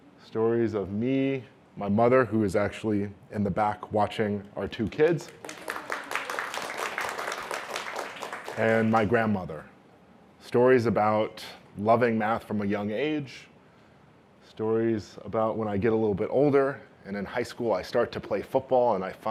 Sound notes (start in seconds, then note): 5.0 applause